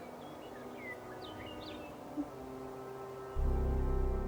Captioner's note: birds chirping